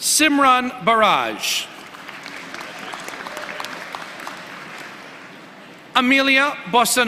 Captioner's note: applause